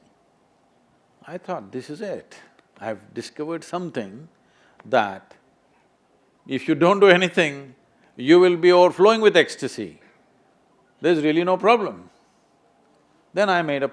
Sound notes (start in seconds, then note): none